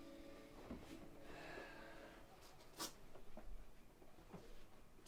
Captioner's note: Jim sighing